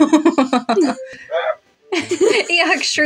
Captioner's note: chuckle; laugh; Eeyok Shrieks; both Laugh